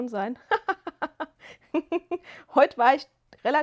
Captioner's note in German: gelächter